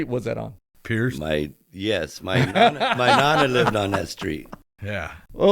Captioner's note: laughter